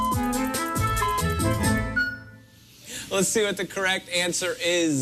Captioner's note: electronic beeping